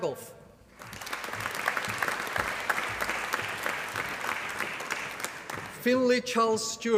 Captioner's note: applause